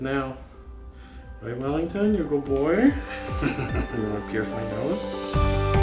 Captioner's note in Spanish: Risas